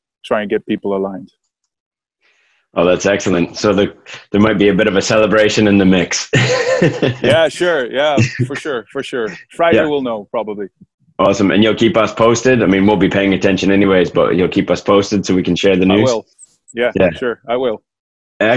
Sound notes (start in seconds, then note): 6.2 laughs